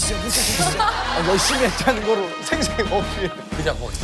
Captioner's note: laugh